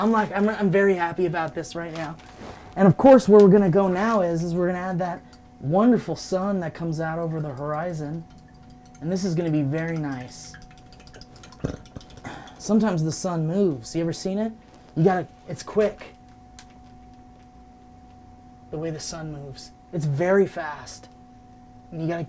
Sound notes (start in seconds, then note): 12.2 burps quietly